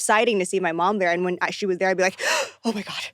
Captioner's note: gasps